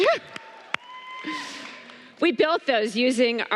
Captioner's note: applause